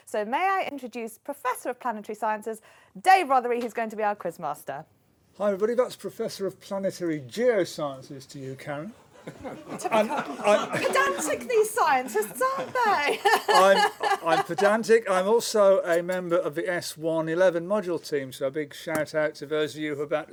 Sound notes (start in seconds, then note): 9.2 laughter; 13.5 laughs